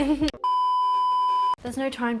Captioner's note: beeping